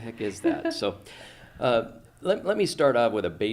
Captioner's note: laughs